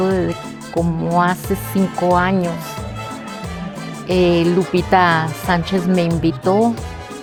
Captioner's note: speaking spanish